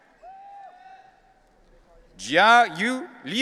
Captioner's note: audience cheering